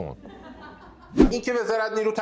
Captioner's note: laughter